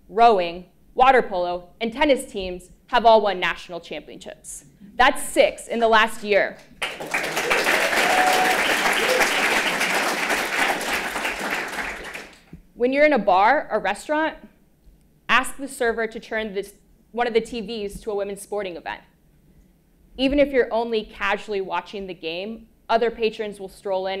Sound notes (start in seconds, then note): 6.7 applause